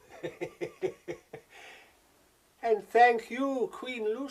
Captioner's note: chuckling